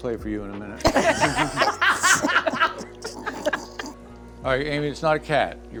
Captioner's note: all laughing